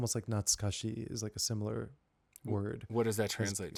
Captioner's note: Speaking Japanese